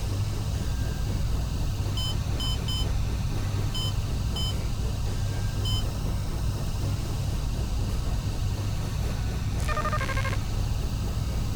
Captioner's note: beeping; tense music